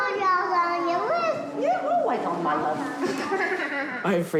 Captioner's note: chuckles